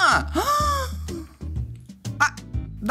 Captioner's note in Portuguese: faz som de surpresa